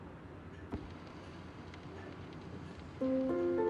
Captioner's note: record hisses softly; gentle piano music